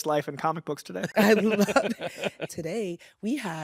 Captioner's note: laughs